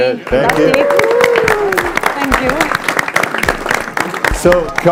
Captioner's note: audience applauding